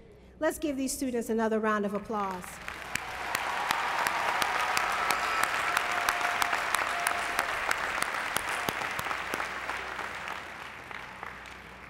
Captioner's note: applause